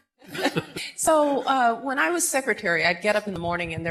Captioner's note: laughter